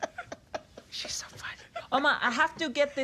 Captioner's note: whispers